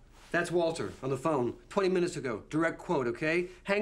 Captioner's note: none